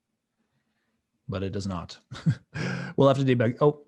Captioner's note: chuckling